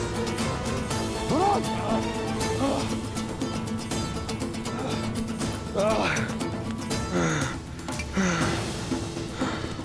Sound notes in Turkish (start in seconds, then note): 1.3 İnilti sesi; 5.6 İnilti sesi; 9.2 Nefes sesi